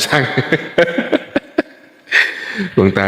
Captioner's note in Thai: เสียงหัวเราะ